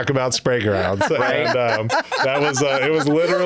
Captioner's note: laughing